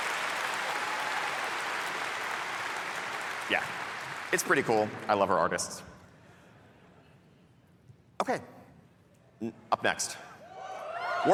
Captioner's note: cheering